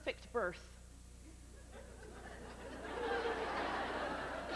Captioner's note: growing laughter